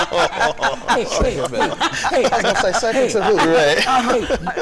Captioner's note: laughter